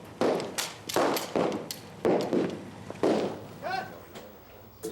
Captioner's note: guns shooting; gun clicking; explosives blasting